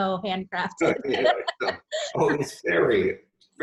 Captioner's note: laughs